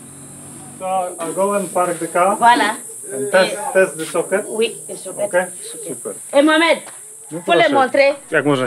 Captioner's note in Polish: rozmowy po francusku